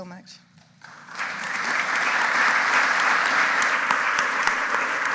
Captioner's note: audience applauding